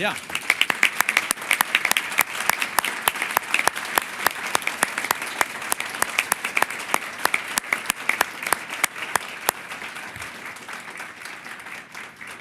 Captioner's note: applause